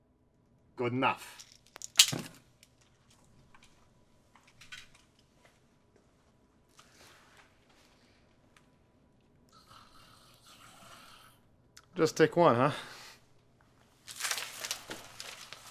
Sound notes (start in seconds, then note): none